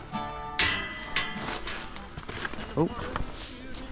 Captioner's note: metal clangs